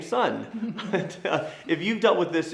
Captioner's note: chuckling